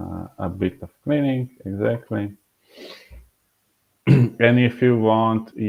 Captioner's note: clearing throat